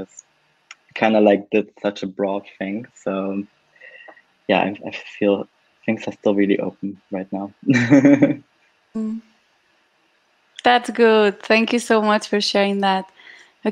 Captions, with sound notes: because kind of like such a broad thing, so yeah. I feel things are still really open right now. (laughs) - That's good. Thank you so much for sharing that.